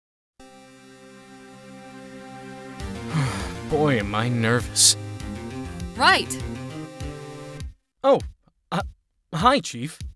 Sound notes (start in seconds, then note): 3.0 exhales